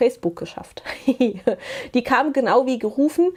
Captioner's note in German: gelächter